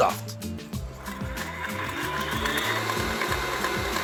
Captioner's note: blender whirs